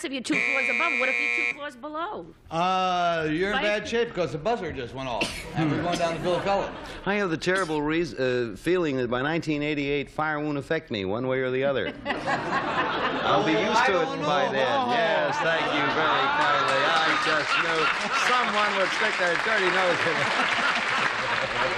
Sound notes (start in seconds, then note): 11.8 laughter; 21.6 applause